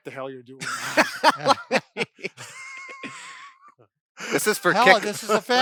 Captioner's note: laughs